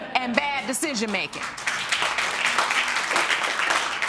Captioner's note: audience applauding